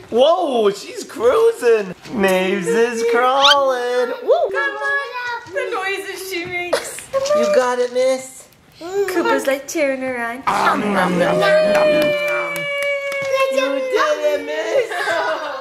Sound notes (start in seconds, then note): 11.0 animated munching noises